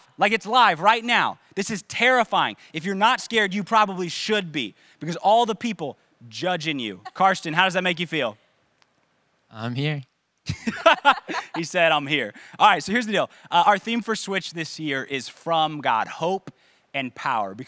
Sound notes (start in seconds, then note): 10.5 laughing